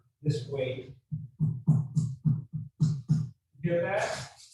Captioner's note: tapping on bread